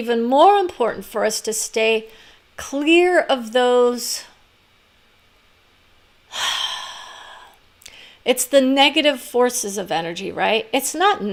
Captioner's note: sighs